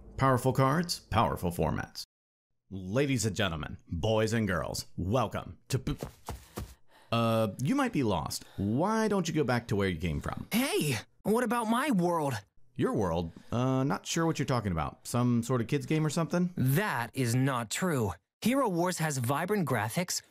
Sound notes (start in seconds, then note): 5.9 quick footsteps approaching; 12.5 voiceover